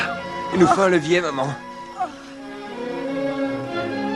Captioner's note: grunts